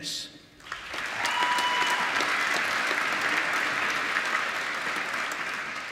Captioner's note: applause